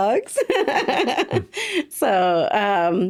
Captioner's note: laughing